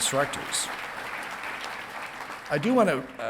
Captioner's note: audience clapping